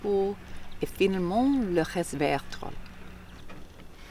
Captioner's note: speaking French